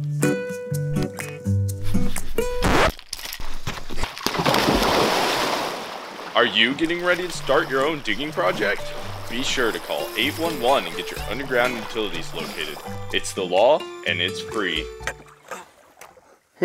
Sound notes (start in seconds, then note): 0.0 charming music; 2.4 record scratch; 4.4 loud splash; 15.2 tired grunting